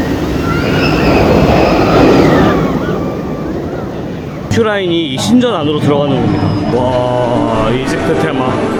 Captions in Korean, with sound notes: 큐라인이 이 신전 안으로 들어가는 겁니다 (와아) 이집트 테마..